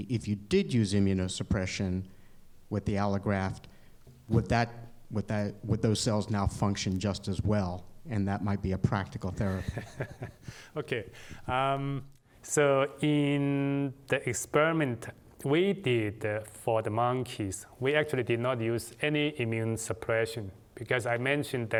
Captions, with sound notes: if you did use immunosuppression with the allograft, would those cells now function just as well, and that might be a practical therapy? [LAUGHTER] In the experiment we did for the monkeys, we actually did not use any immune suppression because I mentioned